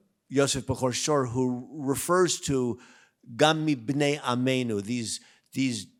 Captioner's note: speaks in Hebrew